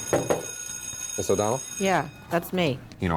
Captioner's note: school bell rings